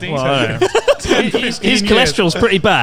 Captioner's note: laughs